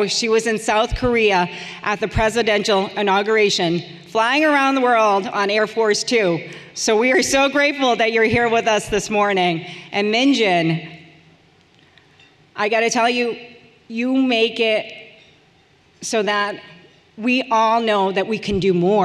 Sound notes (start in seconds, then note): none